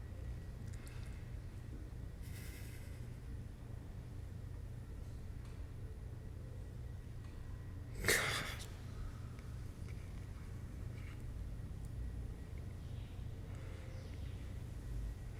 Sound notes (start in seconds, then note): 2.2 breathing shakily